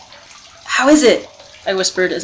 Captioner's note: gentle lapping